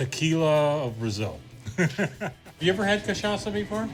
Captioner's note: laughs